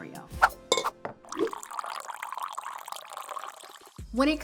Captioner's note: coffee splashing